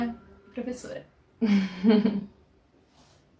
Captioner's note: laughs